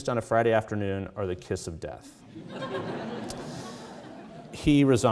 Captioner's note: audience laughing